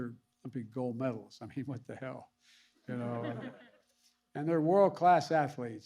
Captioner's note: laughter